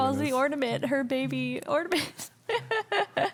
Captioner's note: laughing